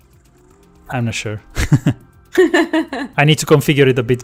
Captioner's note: laughs